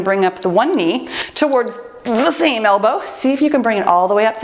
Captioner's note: timer beeps